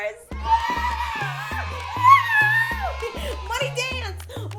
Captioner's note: cheering